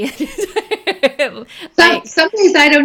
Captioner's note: laughing